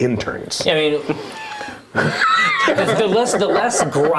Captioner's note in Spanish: risas